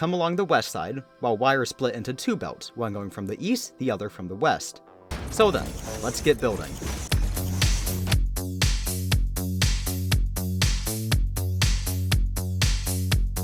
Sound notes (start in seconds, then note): none